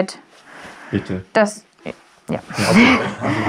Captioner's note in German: Lachen